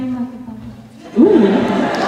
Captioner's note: laughter